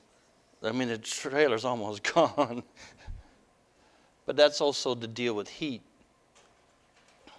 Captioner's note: laughter